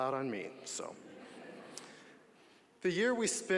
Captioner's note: audience laughing